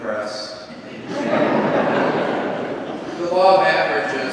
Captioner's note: congregation laughs